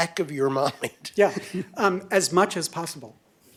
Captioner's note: laughter